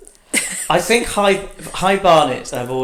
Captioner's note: laughs